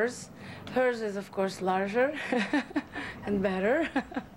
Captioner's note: laughs